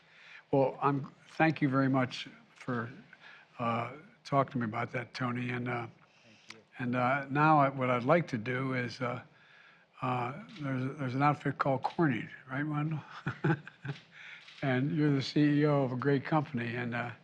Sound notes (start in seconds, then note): 12.7 laughs